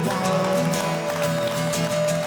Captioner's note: cheering